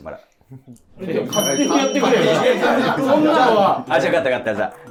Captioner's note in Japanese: 一同：ざわざわ